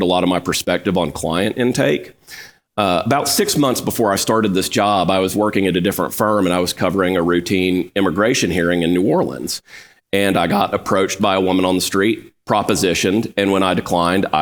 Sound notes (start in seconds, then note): none